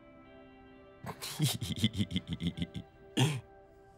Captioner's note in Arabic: يضحك